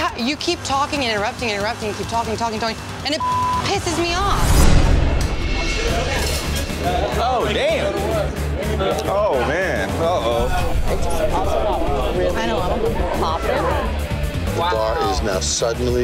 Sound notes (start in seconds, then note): 5.6 dramatic music; 10.6 guests chattering